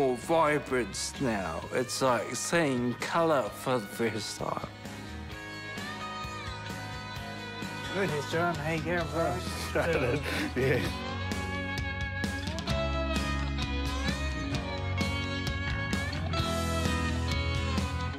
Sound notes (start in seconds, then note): 9.6 chuckles; 11.6 upbeat music